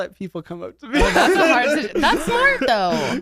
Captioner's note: laugh